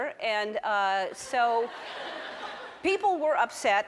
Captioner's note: audience laughs